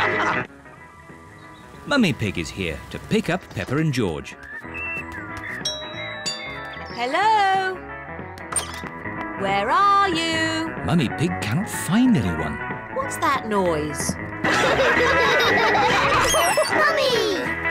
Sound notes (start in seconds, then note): 5.6 doorbell rings; 14.4 all laugh